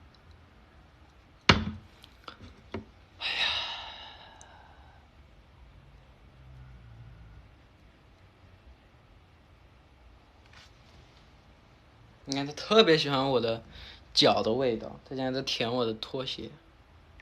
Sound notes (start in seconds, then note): 0.6 sigh